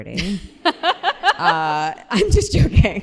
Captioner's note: laughter